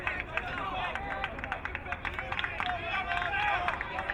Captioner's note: crowd clapping